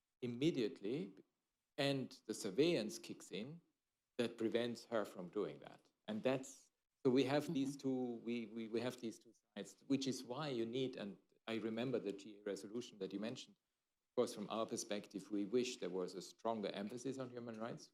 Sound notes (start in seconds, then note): 9.2 off mic